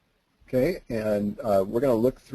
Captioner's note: voiceover